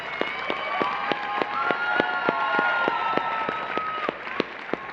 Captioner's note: applause